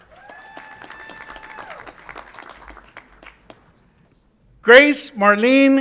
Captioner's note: audience applauds and cheers